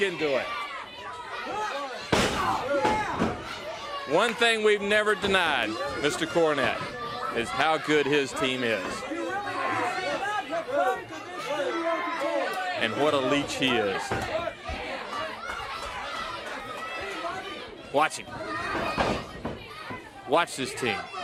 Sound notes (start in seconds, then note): 4.2 crowd chatter; 10.1 crowd cheering; 13.9 crowd chatter